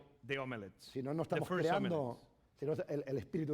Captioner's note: speaking spanish